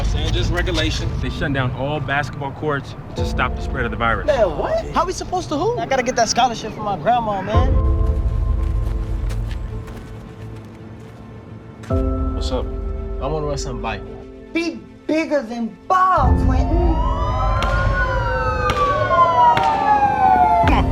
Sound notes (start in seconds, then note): 16.5 police sirens